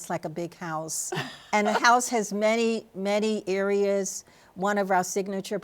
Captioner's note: laughs